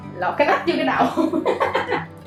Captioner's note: laughing